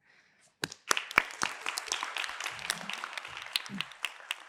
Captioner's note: applause